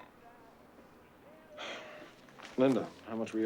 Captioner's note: sighs